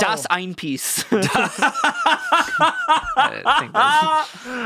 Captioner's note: laughing